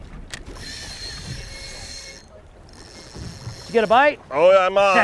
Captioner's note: fishing rod reeling